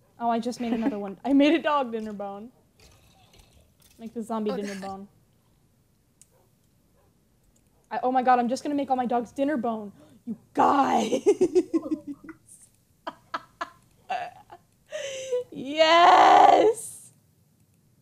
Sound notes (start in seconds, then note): 9.9 gasps